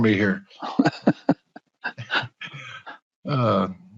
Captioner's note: laughing